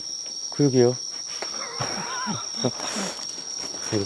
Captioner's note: ㅋㅋㅋㅋㅋㅋㅋㅋㅋㅋㅋㅋ